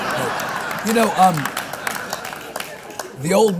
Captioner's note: audience claps; audience laughs